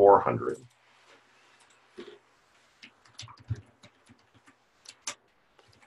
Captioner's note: typing Sounds